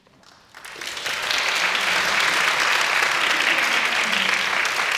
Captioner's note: audience applauding